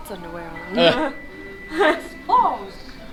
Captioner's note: laughing